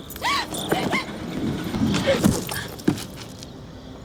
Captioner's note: Lindsay gasping